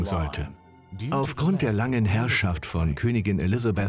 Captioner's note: voiceover